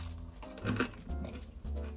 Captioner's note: crispy sound